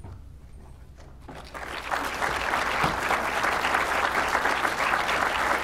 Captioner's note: applause